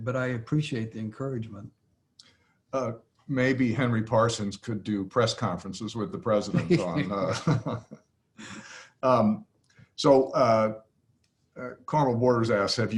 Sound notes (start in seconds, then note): 6.4 Larry and J.B. laughing